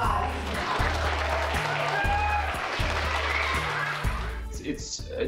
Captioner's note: audience applauding and cheering